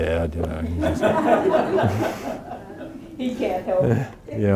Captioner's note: audience laughing